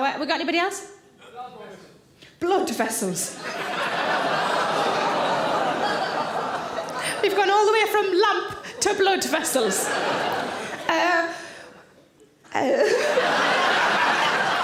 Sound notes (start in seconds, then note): 3.4 audience gasps and chuckles; 9.9 audience laughing